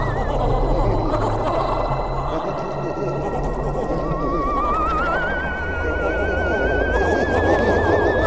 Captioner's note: scary sounds